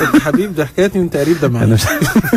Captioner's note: laugh!